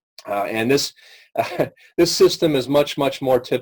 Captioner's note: chuckles